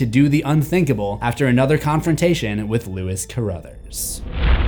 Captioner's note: impact